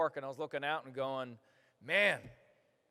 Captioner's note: none